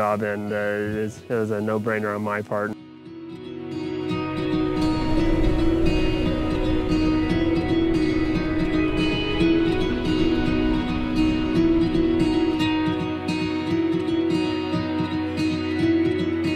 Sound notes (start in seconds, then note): 3.2 soft music; 5.7 wind howling